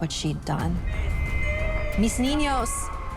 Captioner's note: Maria weeping